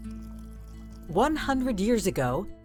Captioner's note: coffee pouring; light music